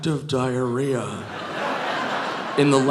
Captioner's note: audience laughing